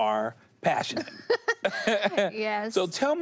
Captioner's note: both laugh